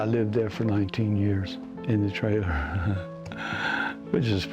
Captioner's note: laughs